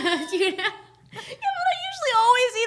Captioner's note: both laughing